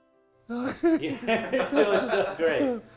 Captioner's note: chuckling